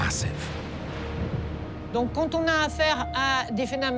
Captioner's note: speaks in foreign language